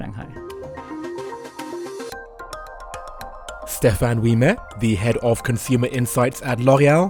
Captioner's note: voiceover